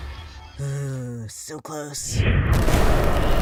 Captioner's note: sigh